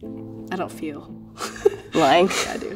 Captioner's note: laughs